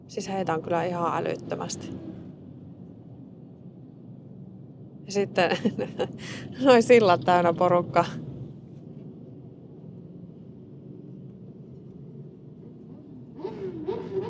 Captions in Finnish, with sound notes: Siis heitä on kyllä ihan älyttömästi. Ja sitten [naurua] noi sillat täynnä porukkaa.